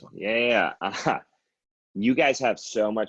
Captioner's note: laughs